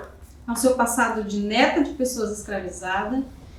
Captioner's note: speaking portuguese